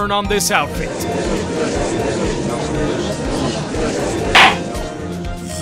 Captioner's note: gallery chattering; gavel slams!